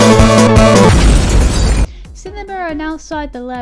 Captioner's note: an explosion explodes